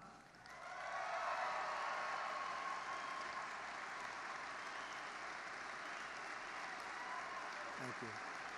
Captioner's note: applause